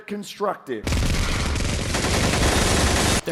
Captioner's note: sustained gunfire